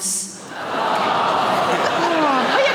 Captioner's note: audience awws